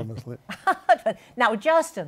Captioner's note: chuckles